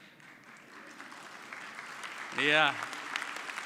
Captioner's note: audience clapping